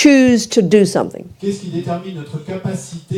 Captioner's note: speaking in French